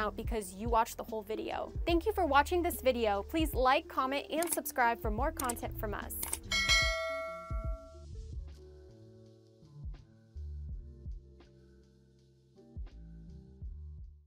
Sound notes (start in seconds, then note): 6.3 bell ringing; 7.9 gentle music